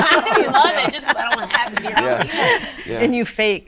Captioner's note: all laughing